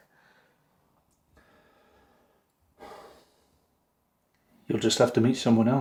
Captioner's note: Jamie sighs